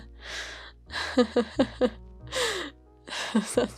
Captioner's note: nervous laugh